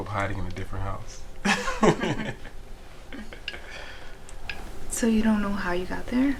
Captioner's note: both laughing